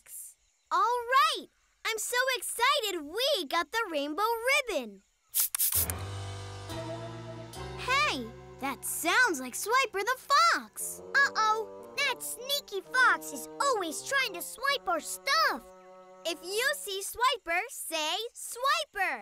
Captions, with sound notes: Alright, I'm so excited we got the rainbow ribbon! [swooshing] Hey, that sounds like Swiper the Fox! Uh-oh, that sneaky fox is always trying to swipe our stuff! If you see Swiper, say, "Swiper!"